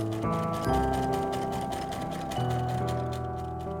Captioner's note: sewing machine